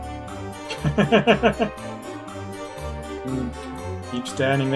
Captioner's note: laughs